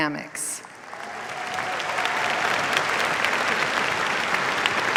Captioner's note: cheers, applause